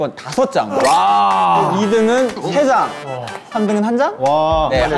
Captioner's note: shocked